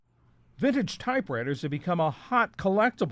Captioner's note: voice-over